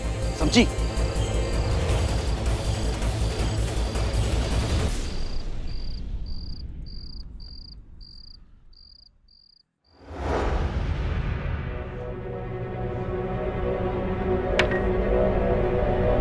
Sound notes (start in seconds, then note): 14.3 glass clinks